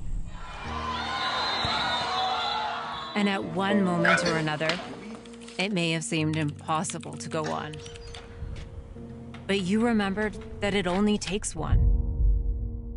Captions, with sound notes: (people cheering) And at one moment or another, it may have seemed impossible to go on. But you remembered that it only takes one.